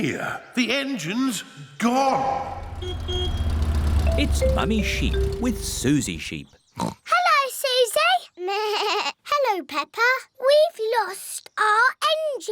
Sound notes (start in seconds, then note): 2.4 horn honks; 6.7 oinks; 8.1 bleats